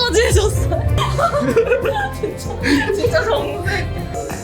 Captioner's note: giggles